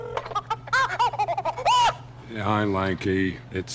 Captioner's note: orangutan screeching